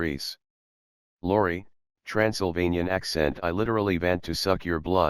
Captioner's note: Transylvanian accent